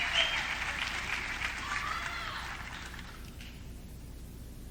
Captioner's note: audience cheering